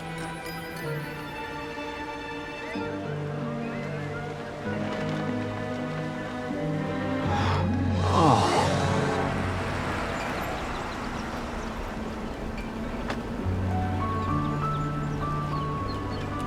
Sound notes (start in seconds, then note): 7.2 gasps